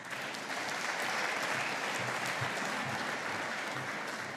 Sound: audience applauding

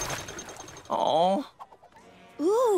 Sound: sighing

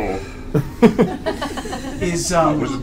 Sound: all laugh

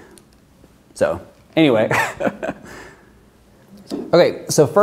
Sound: laughs

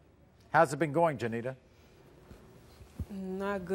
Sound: none

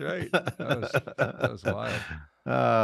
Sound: laughs

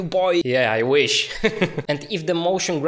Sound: laughs

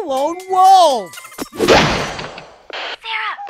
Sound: door crashes

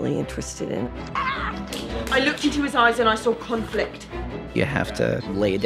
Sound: excited scream; chopsticks hitting together

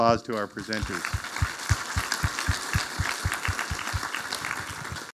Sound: audience applauding

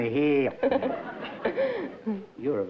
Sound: laughter

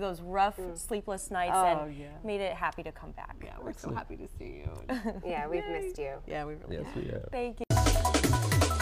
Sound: laughter

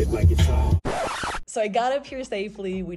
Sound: record scratch

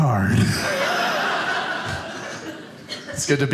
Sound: audience laughing

